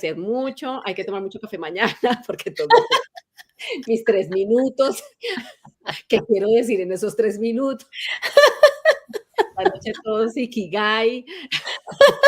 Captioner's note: laughs